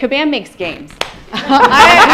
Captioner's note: laughter